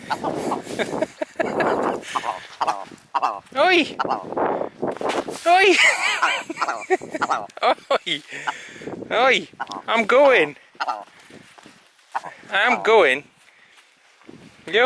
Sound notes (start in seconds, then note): 0.8 laughing!; 7.5 bird clucking